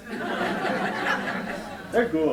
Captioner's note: laughter